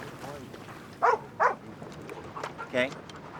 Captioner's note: dog barks